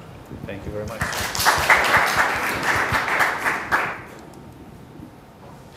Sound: applause

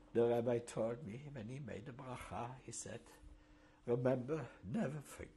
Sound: hebrew

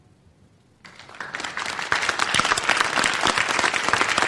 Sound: applause

